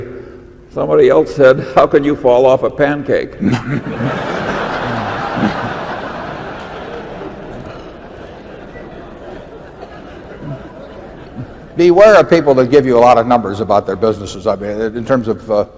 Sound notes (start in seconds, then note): 5.0 laughter